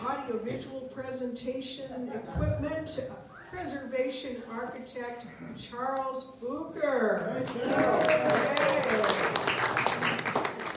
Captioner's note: applause